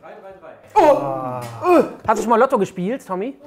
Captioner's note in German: Stöhnen